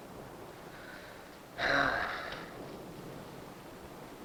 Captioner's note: Johnny sighs